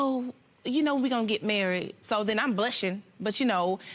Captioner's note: none